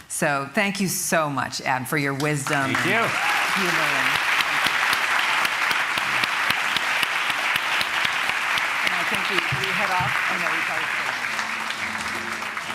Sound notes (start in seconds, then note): 3.0 cheering, applause; 5.0 applause